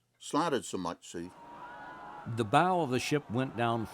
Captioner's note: crowd screaming